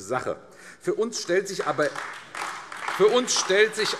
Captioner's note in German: Beifall AfD